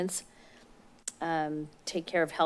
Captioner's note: smacks lips